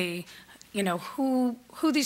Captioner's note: none